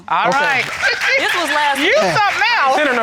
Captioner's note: applause